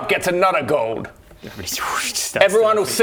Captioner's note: standing up noise